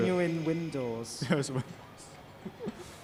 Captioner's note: laughs